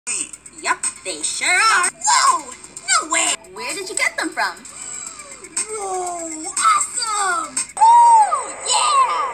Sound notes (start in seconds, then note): 4.7 inhales